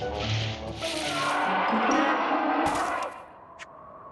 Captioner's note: roar